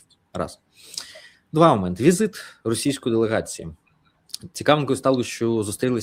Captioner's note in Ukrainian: сопіння